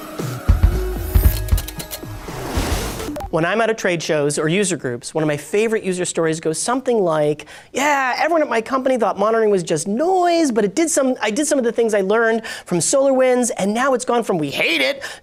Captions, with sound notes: [swooshes] >>When I'm at a trade show or user groups, one of my favorite user stories goes something like, "Yeah, everyone at my company thought monitoring was just noise, but I did some of the things I learned from SolarWinds, and now it's gone from 'we hate it'